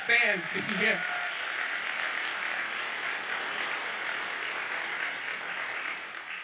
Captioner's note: audience cheers and applauds